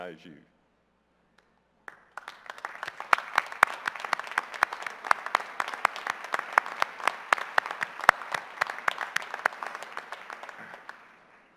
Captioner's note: applause